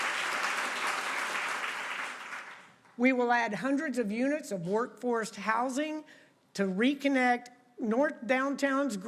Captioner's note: applause